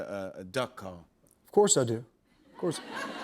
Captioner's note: laughter